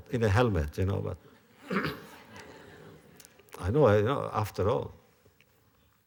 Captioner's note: laughter